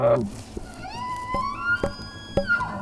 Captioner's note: elk bugling